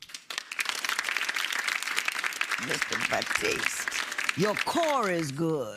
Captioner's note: applause